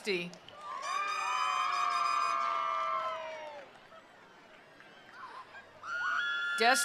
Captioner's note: attendees applauding; attendees cheering